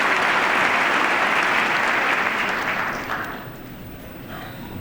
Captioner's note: applause